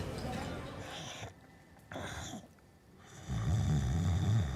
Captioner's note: snoring